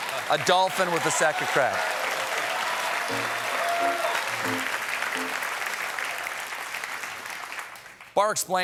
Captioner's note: applause